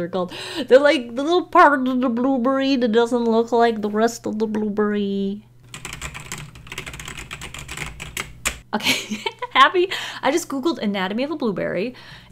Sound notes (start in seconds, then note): 5.6 typing noises